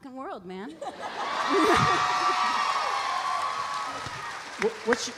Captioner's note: audience cheering; audience applauding